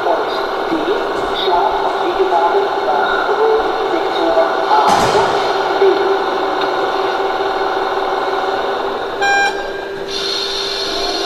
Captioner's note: horn